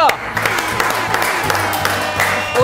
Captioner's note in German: Tröten, Jubel, Applaus